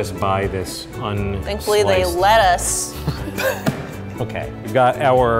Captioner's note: laughing